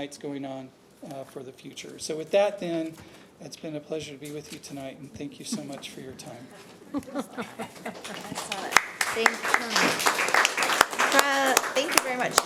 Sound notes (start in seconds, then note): 6.8 audience laughing; 7.3 audience applauding